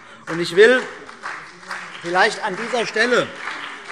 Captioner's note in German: Beifall CDU und BÜNDNIS 90/DIE GRÜNEN